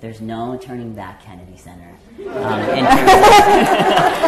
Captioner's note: audience laughter and applause